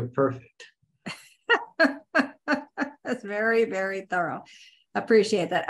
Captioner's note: chuckles